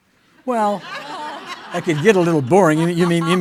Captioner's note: audience laughing